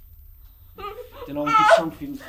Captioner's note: muffled crying